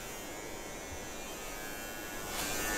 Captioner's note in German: Leises Surren